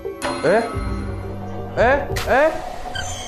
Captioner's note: door shuts suddenly